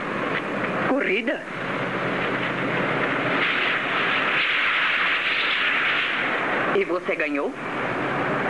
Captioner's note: none